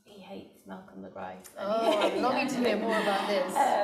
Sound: laughing

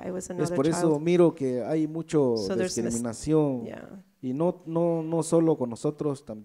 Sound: speaks in foreign language

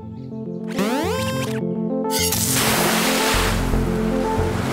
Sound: beeps

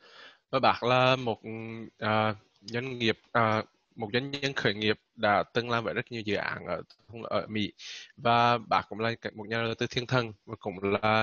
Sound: speaking Vietnamese

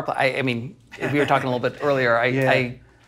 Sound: laughing

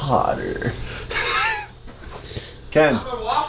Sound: laughs

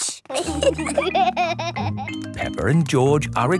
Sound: laughter

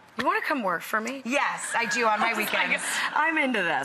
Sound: laughter

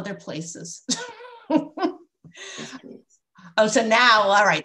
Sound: laughter

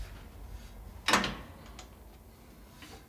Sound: locking click

